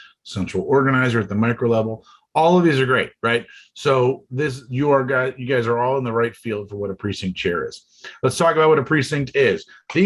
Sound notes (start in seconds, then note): none